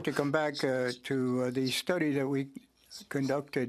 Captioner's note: speaking French